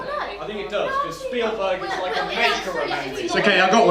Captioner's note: chatter